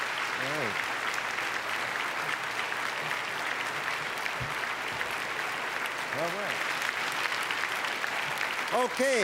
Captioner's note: applause; applause fade